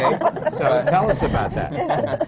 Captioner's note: laughter